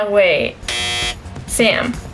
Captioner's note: buzzer